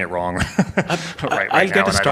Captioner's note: laughs